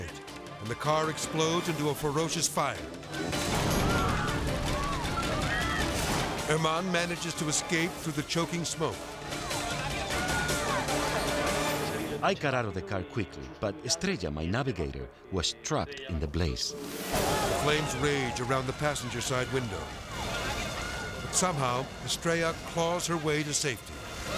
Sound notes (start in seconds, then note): 2.7 chaotic dramatic music; 3.0 people screaming; 9.1 chaotic dramatic music; 9.2 people screaming; 16.8 dramatic whoosh; 19.9 people screaming